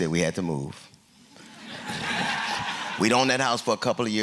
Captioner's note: laughter